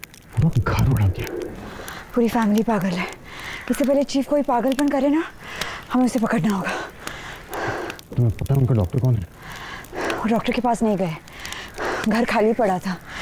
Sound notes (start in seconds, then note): 5.4 Sakshi gasps; 6.6 Sakshi exhales